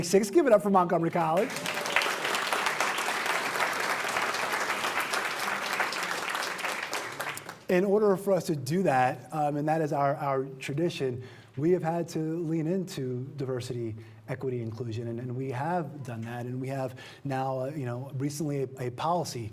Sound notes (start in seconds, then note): 11.4 applause